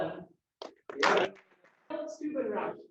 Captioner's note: applause